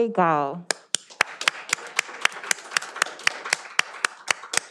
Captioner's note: all applauding